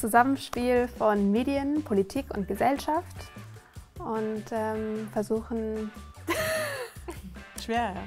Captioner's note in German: lacht